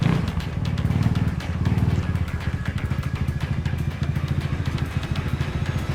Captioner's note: motorcycle engine revs